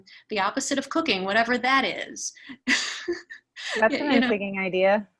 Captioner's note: laughing